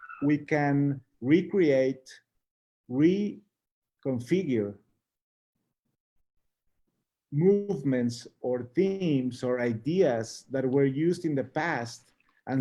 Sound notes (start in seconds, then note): none